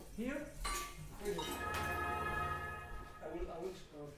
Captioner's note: high pitched humming